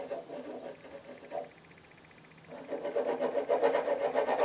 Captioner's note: drawing sounds